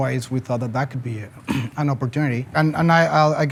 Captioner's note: clears throat